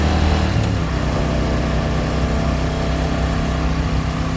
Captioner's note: roaring motor